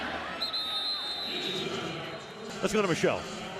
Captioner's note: whistle